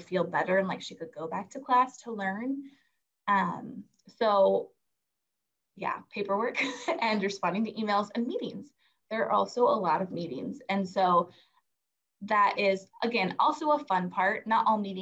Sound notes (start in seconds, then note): 6.6 chuckles